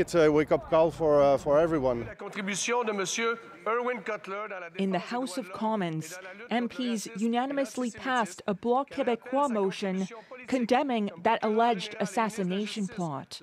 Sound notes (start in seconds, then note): 5.3 speaking French